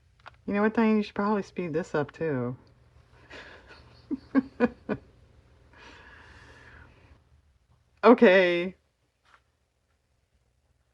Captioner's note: laughs